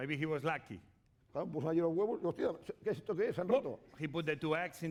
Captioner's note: speaking spanish